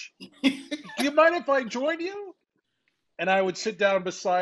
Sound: laughing

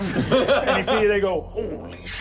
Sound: laughing

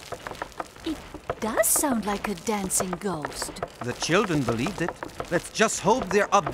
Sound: clopping

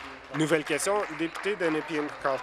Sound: applause

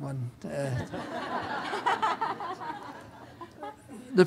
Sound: laughter

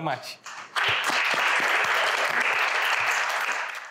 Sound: audience applauds

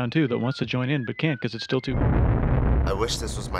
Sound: explosion

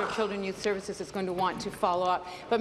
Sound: applause

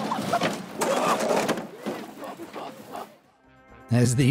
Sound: speaking in foreign language; cart thuds

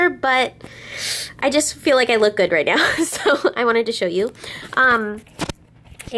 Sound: laughs

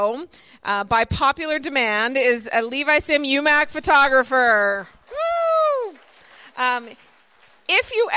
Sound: applause

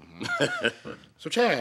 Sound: Gates laughs

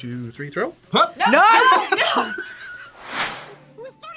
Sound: laughs

